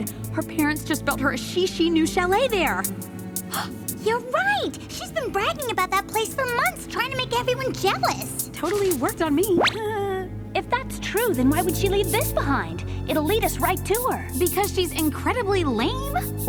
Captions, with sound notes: Her parents just built her a chichi new chalet there. [gasp] You're right. She's been bragging about that place for months trying to make everyone jealous. Totally worked on me. If that's true, then why would she leave this behind? It'll lead us right to her. Because she's incredibly lame.